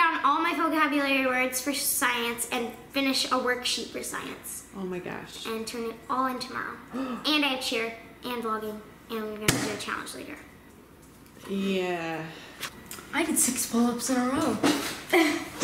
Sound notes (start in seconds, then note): 6.9 gasps